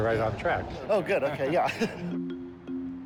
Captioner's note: chuckles